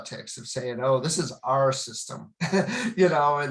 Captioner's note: chuckles